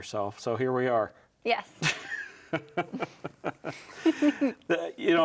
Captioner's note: laughing